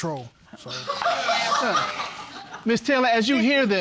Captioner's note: audience laughing hysterically